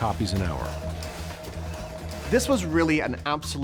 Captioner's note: press churning